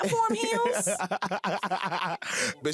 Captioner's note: laughter